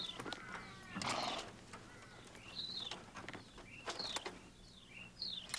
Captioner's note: horse nickering